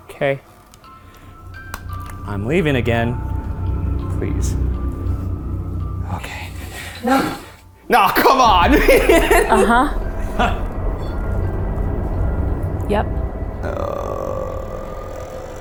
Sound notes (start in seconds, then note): 8.2 laughs; 9.0 device beeping